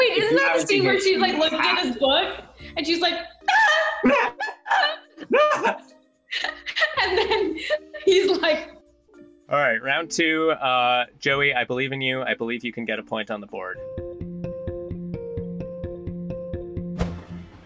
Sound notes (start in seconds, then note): 5.2 both yelling; 5.2 yells; 6.5 laughs; 13.9 upbeat music